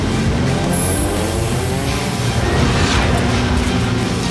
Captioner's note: NOS hissing